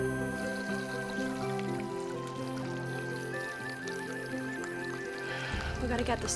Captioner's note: gentle music; liquid pouring